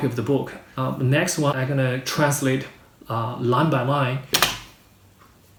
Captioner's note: in English